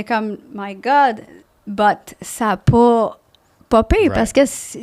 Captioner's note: in french